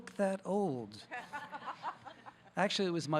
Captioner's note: audience laughing